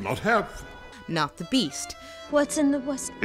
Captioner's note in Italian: voce fuori campo